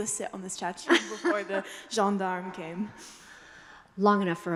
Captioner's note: speaking foreign language